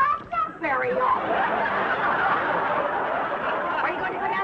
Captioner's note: audience laughing